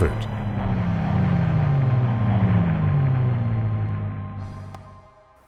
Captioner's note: planes roaring